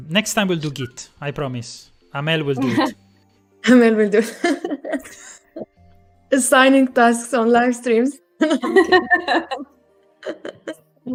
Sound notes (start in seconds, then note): 4.2 laughs; 8.4 laughter